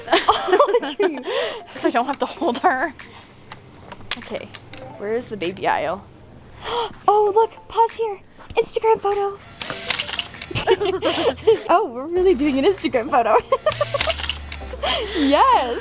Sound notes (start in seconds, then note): 9.5 camera clicks; 10.4 girls giggle; 13.2 girls giggle; 13.6 camera clicks